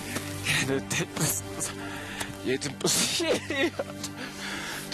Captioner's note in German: Schluchzend